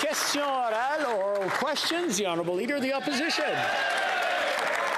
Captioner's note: applause